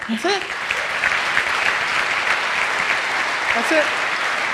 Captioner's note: audience applauds